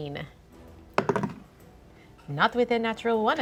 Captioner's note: dice clatter